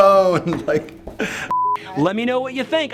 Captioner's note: laughs; beeping